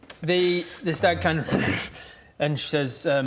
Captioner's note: grrr